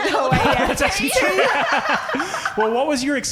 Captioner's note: laughing